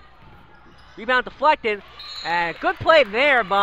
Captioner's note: whistle blows